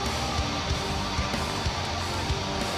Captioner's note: crowd cheering